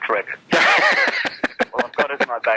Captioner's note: laughs